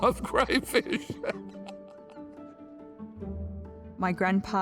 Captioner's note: laughing